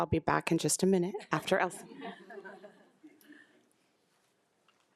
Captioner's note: group laughs